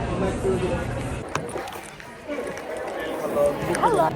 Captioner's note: laughing; crowd murmuring